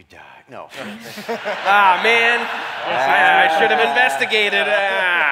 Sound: laughter

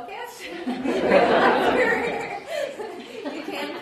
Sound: audience laughs

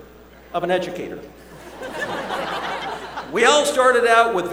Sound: laughter

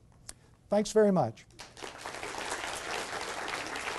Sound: clapping

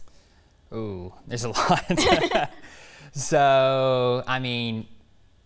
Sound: laughs

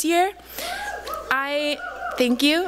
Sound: cheering

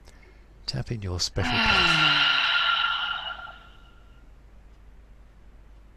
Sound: sighs

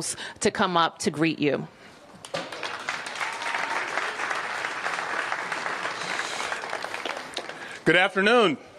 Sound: applause

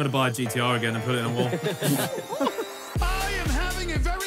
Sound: players laugh

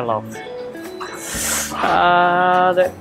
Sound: winces

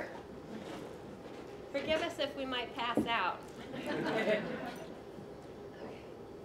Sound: laughter

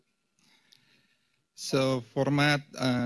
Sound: pause

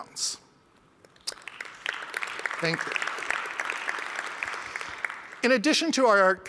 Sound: applause

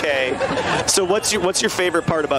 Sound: laughter

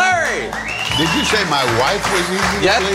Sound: whistling and clapping

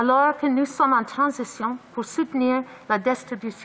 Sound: speaking in French

